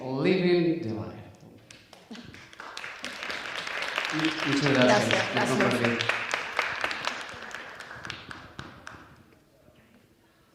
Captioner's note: applause